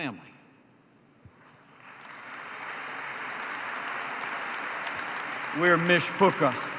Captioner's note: applause